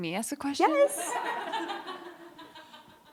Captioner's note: laughter